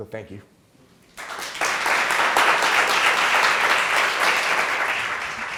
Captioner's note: students clapping